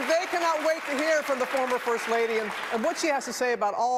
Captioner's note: applause